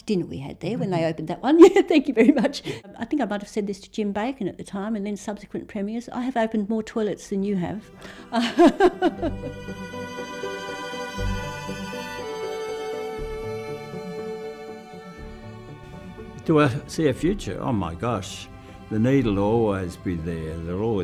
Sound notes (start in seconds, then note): 8.0 laughs; 9.3 gentle music